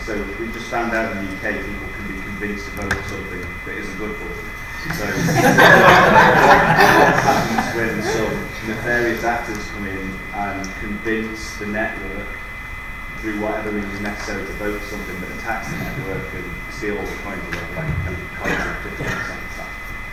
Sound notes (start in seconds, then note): 4.8 audience laughing